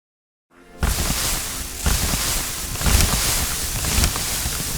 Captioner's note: confetti popping